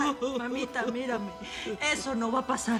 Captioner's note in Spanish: Sollozos